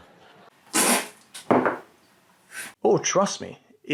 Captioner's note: spits out coffee